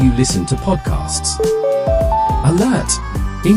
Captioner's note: notification chime